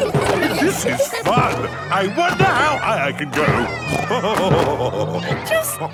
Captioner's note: laughing; snorting and laughing